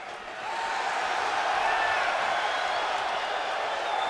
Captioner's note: audience cheering